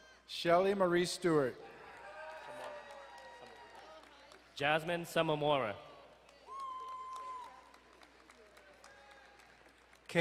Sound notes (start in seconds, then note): 1.6 crowd cheering; 6.4 distant cheering